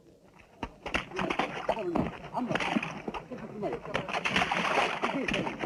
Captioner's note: group chattering